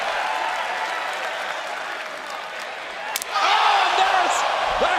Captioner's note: crowd cheering